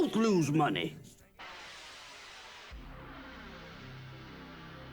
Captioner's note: logo sounds